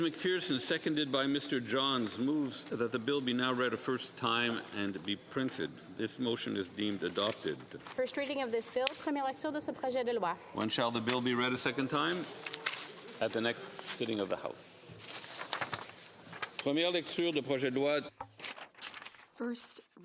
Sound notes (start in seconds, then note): 12.6 speaking French